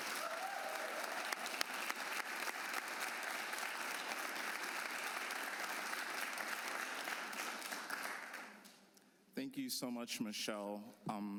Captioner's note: applause